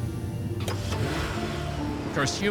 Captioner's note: engine revving